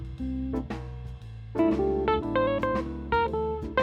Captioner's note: none